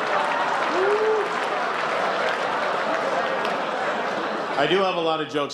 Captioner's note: laughter